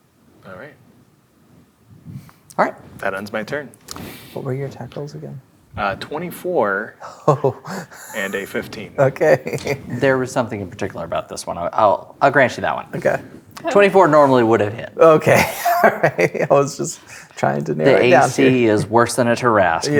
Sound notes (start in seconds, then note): 7.1 laughs; 15.2 laughing